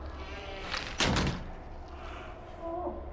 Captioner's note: door slams shut